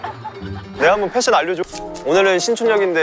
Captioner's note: Scratch